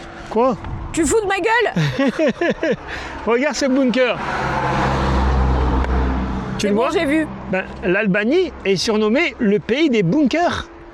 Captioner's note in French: rires